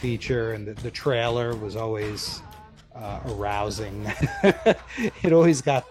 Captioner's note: laughs